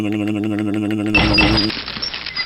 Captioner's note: clank